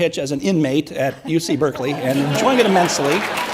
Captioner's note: audience laughs and applauds